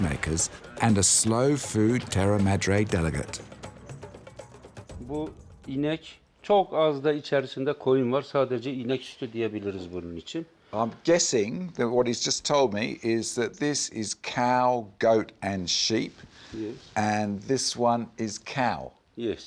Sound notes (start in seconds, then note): 3.8 speaks turkish